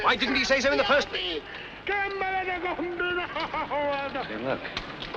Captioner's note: Captain of SS Nyanga shouting